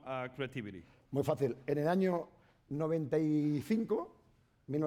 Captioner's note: speaking spanish